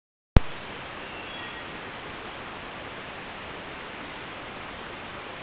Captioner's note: birds chirping